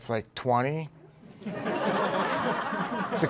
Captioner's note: laughter